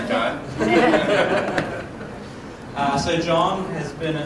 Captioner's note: laughter